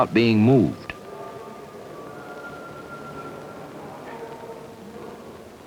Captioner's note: indiscriminate chatter